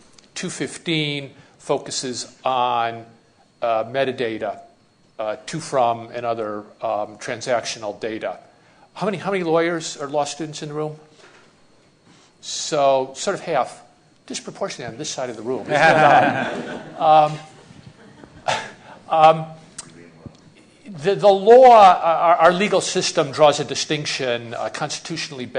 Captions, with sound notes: 215 focuses on metadata to from other transactional data. How many lawyers or law students in the room? So half-- disproportionately on this side of the room [Laughing]. The law our legal system draws a distinction constitutionally